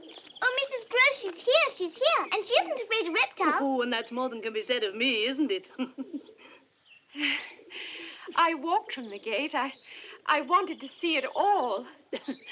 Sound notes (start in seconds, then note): 5.3 laughs; 5.4 chuckles; 12.1 chuckles